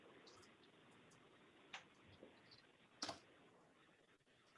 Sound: keyboard clutters

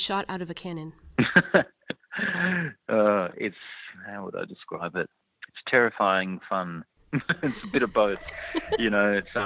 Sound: laughs

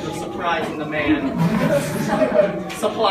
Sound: whispering

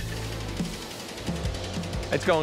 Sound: machinery whirring

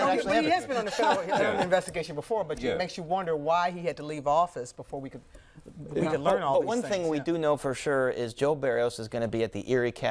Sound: laughter

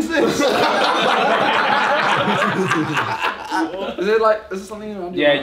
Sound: all laugh

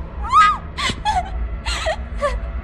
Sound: screams; music intensifies; scared breathing

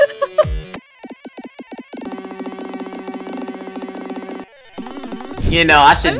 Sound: laughs; robotic error sound effects

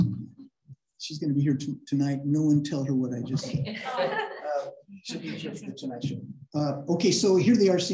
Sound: laughter

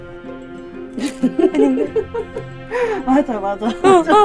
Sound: can't hold the laughter

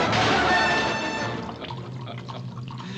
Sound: laughing heartily

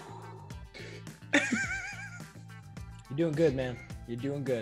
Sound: laugh

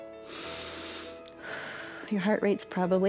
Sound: inhales and exhales

